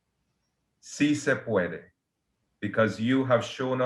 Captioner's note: speaks Spanish